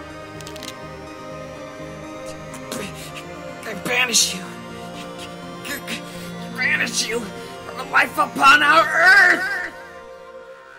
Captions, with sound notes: (BEN stammers) I banish you-- Banish you... From a life upon our Earth!